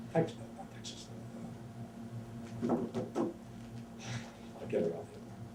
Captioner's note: taps hand on table